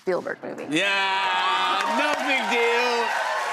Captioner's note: cheers and applause